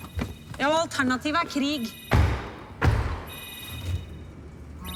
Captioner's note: phone ringing